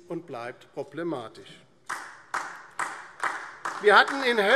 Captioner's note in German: Beifall DIE LINKE